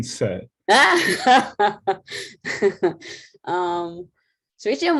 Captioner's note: laughter